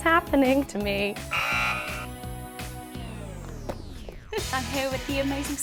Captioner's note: buzzer sounds